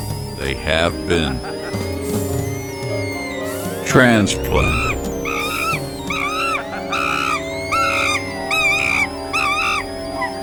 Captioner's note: male laughter; monkeys scream louder